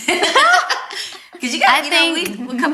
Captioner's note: all laugh